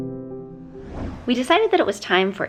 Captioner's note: whoosh